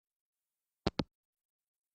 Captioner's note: hangup